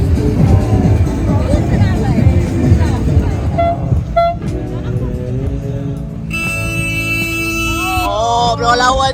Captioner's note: air horn sound; speaking German